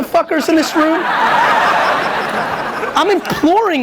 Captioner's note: audience laughs